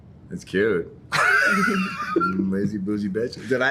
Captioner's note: laughs